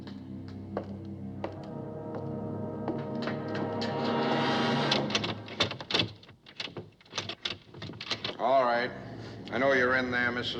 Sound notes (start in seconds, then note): 1.7 footsteps Approaching; 5.1 door Handle Rattling